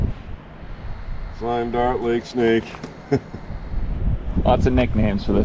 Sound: chuckles

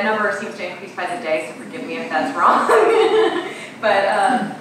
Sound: laughing

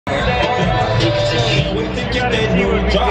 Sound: crowd noise

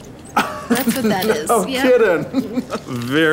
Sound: laughing

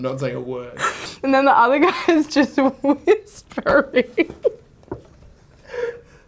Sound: laughs

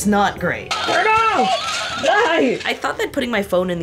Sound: device buzzing

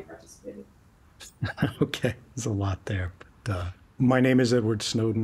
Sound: chuckles

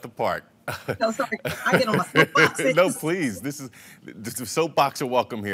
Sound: laughs

